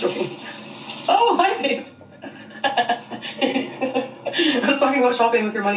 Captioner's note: laughs